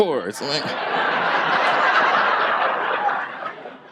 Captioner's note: audience laughs